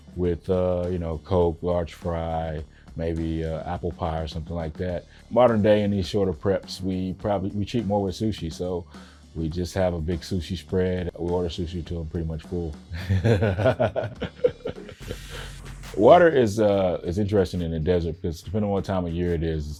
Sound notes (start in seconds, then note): 12.9 laughing